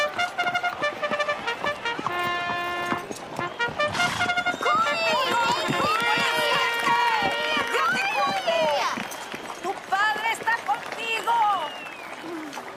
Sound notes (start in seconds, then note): 4.1 crowd cheers